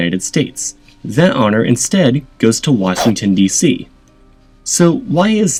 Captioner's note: whoosh